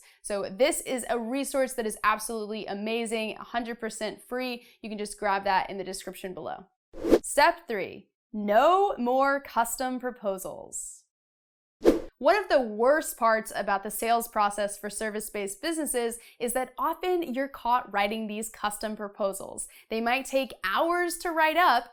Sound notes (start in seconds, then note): 7.0 air whooshing; 11.8 air whooshing